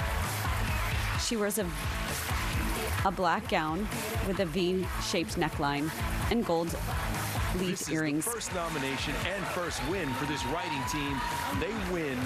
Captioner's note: applause